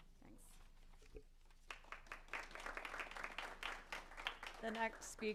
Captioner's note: applause